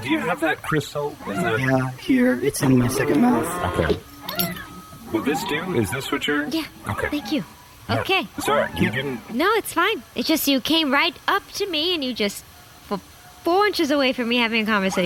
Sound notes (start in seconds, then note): 3.4 whirring noises; 4.0 clinking noises